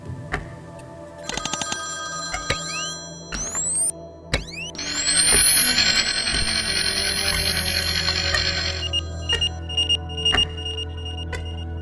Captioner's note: telephone ringing. Clicking, high-pitched whine, buzzing. Warning beeps